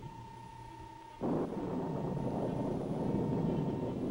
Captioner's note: electronic beeping